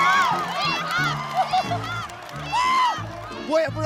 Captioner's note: haha